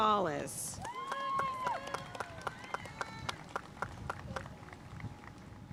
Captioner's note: audience cheering and applauding